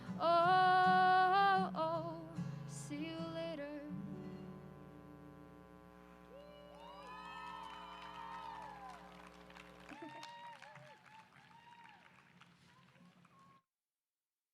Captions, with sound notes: Oh, oh, see you later. [AUDIENCE APPLAUSE]